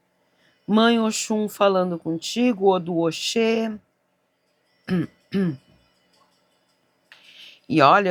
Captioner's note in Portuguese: tosse